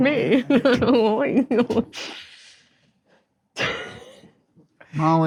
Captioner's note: chuckles deviously